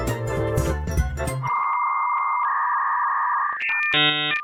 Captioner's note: dial-up tone blares